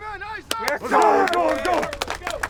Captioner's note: coaching yells; cheering